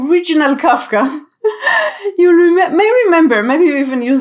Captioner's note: chuckles